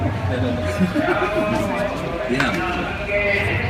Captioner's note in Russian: смеётся